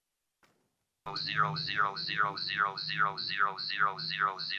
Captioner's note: electronic Voice